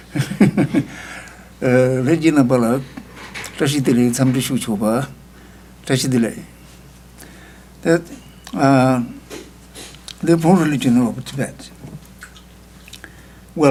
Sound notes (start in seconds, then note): 0.1 laughs; 1.2 speaking tibetan